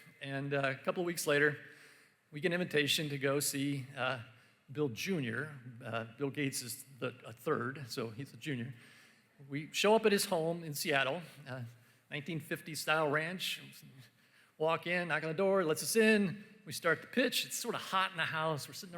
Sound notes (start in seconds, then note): none